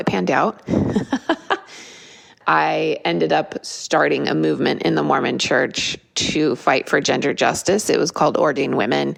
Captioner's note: laugh